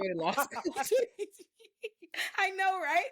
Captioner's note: laughing